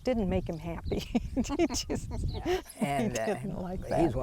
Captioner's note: laughs